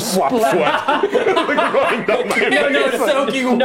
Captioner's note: laughing